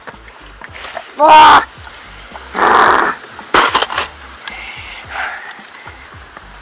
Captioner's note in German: Stöhnen